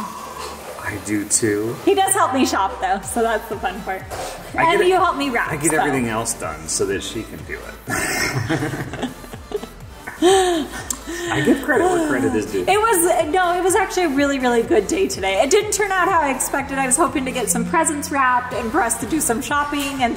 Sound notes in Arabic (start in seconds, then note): 0.2 يلهث; 7.8 كلاهما يضحك